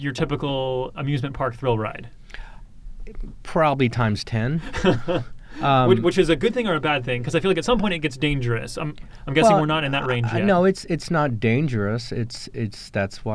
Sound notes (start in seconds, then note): 5.5 laughs